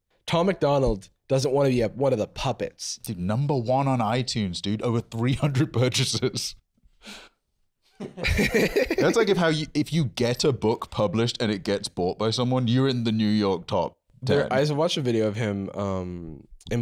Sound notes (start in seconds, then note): 8.0 laughing